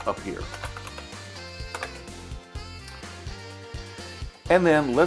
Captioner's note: IBM Model M clicky keyboard typing